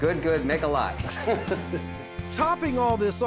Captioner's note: laughing